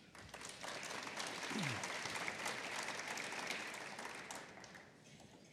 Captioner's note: applause